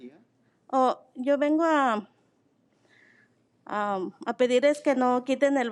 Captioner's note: speaking in foreign language